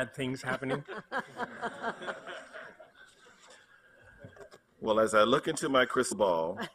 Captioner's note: laughter